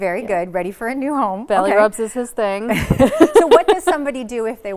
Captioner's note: laughs